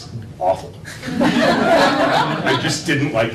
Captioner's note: laughter